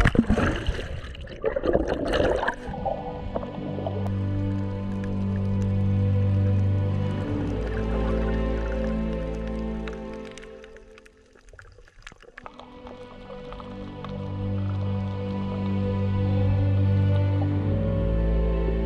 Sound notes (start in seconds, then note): 2.2 gentle music; 3.2 underwater sounds